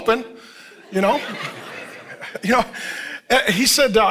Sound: congregation laughing

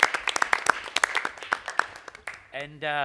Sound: applause

